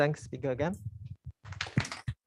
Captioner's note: applause